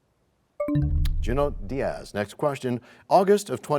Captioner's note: bell chimes, time expires